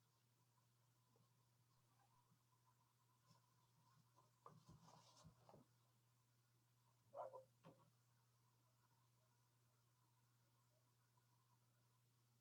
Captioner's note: video begins playing but without sound